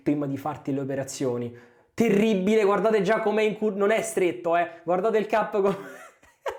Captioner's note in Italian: risate